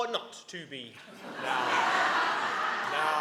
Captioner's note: audience laughing